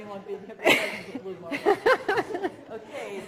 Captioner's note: all laughing